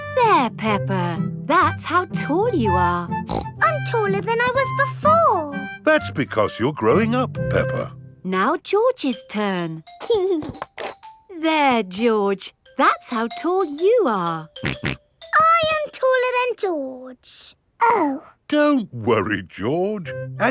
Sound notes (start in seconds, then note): 3.2 snorts; 10.2 giggling; 14.6 snorts